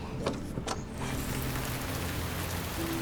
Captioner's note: door opens